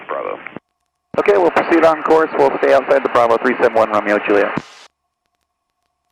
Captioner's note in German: über Frequenz der Flugsicherung